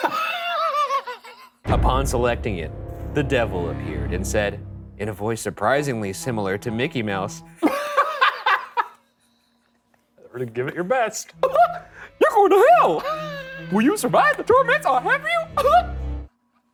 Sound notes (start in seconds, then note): 0.0 laughing; 7.6 laughing; 16.5 wheezing